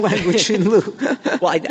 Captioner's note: laughter